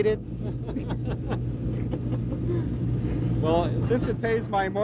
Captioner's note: laughter